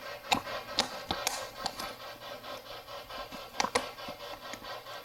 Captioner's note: white noise buzzes